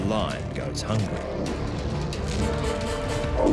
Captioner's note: lion growls